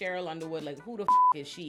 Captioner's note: beep